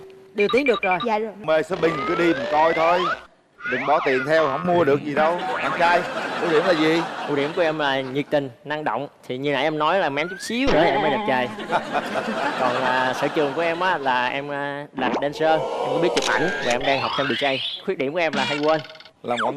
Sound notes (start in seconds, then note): 10.8 laughing